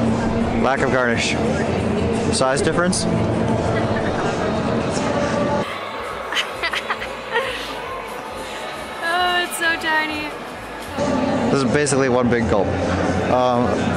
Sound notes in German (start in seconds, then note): 6.0 Lachen